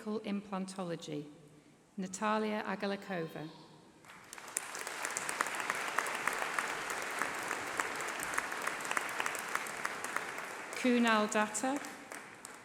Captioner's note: applause